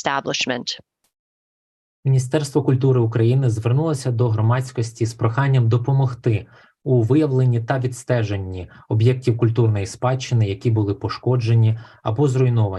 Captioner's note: foreign Language Spoken